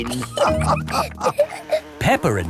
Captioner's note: all laughing